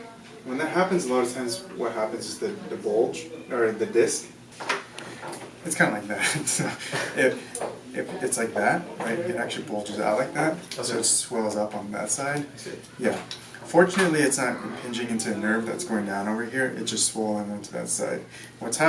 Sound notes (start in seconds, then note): 6.2 chuckles